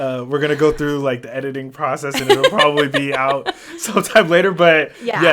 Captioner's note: laughs